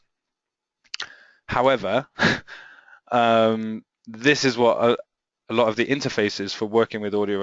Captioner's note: chuckles